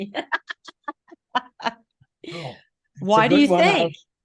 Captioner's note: laughing